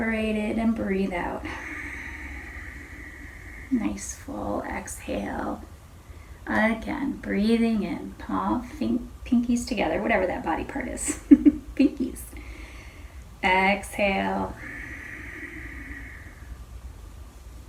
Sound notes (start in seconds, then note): 11.1 chuckles